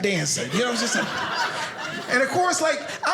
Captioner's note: audience laughing